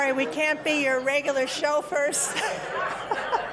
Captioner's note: laughter